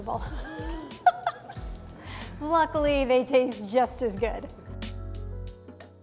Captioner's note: laughs